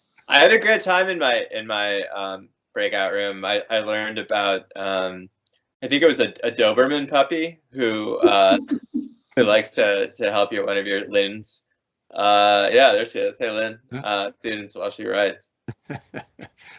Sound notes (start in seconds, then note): 8.0 laughing; 15.7 laughing